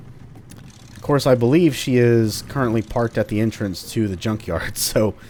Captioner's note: chuckles